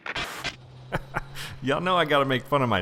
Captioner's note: laughs